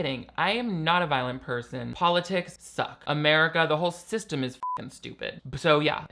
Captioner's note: beep